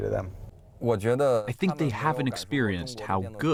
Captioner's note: through translator